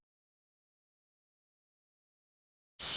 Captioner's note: silence